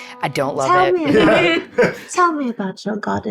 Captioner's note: chuckles